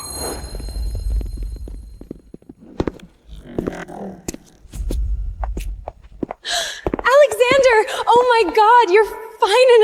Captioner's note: tires screech